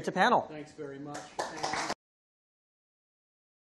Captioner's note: applause